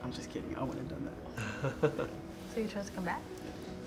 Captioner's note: man laughs